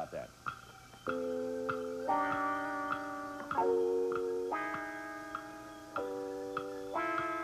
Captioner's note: clock ticking